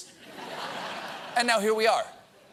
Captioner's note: laughter